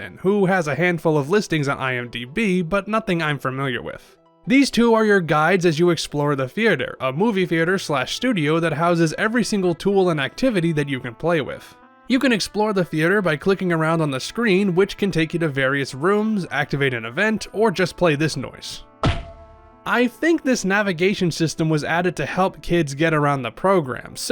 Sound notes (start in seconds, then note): 19.0 metal ding